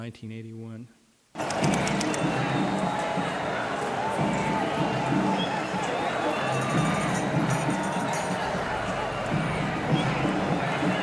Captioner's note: crowd cheering